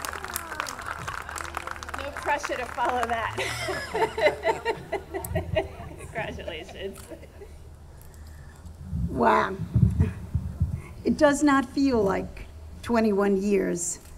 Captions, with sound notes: No pressure to follow that. (laughs) Congratulations. - Wow, it does not feel like 21 years.